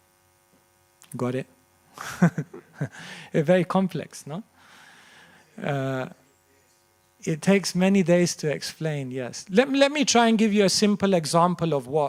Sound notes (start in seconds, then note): 2.0 laughter